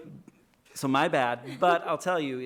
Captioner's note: laughing